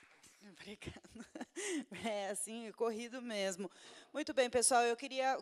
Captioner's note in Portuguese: risos